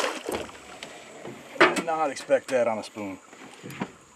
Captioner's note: fish splashing